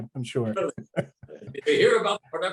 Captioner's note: both laughing